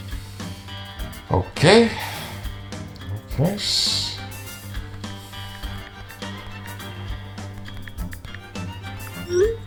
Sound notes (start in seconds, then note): 1.3 taking a breath